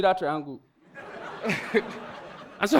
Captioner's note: audience laughing